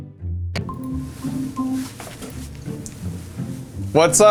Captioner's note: electronic beeping